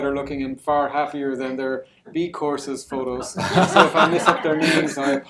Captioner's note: laughter